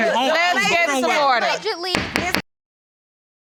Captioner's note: gavel pounding